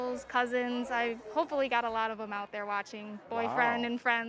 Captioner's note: none